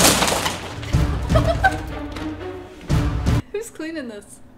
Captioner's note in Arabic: يضحك